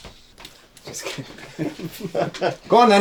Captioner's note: group chuckling